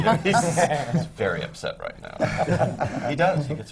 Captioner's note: laughter